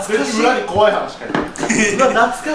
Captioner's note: laughs